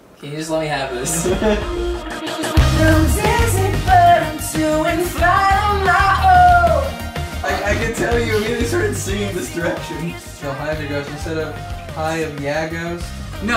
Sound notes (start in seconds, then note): 0.9 laughs